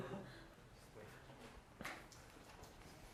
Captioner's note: laughter